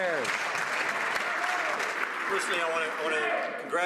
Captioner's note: some Applause